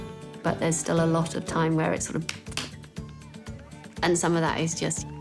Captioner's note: claps